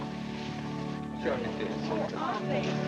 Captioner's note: indistinct chatter